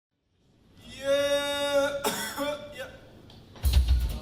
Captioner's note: cough